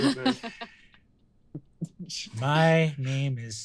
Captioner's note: laughs